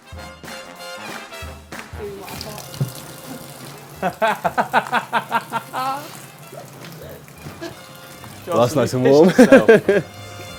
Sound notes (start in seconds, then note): 0.0 upbeat music; 3.9 laughing loudly